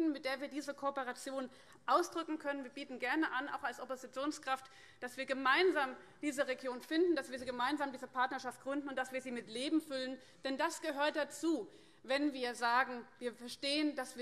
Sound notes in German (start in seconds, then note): none